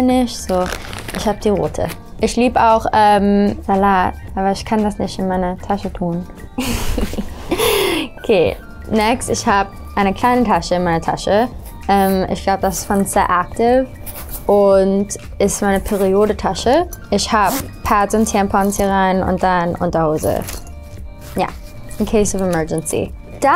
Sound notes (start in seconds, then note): 6.6 laughs